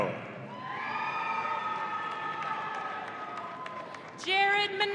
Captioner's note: audience cheering